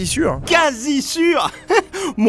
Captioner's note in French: Rire